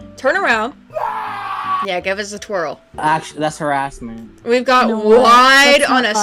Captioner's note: screaming man